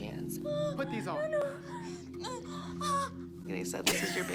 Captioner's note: groans